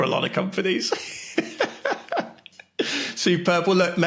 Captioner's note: laughing